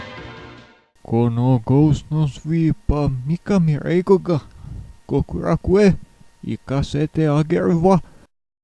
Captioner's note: in gratuitous Japanese